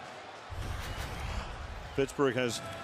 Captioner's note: swoosh